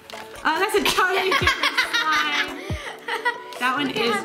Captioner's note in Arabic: يضحك